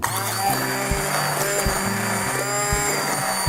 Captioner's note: low grinding